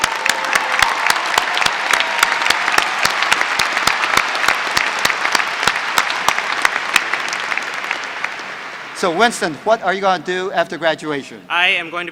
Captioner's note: applause